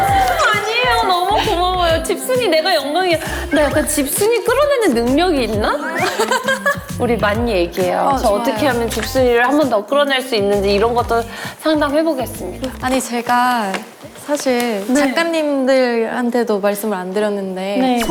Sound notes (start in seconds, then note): 5.6 hahaha